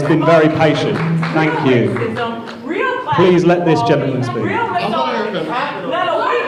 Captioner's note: shouting